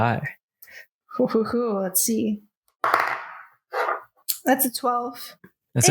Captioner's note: dice rolls